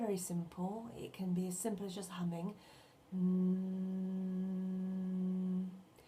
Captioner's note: hums